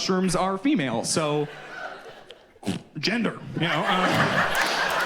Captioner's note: vocalizes